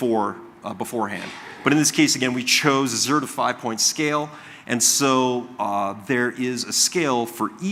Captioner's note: coughing